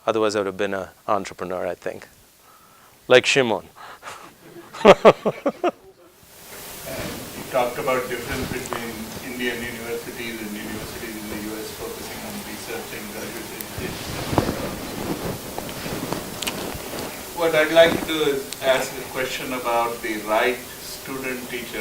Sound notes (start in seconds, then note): 3.6 laugh